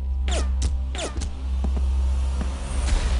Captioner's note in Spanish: Disparos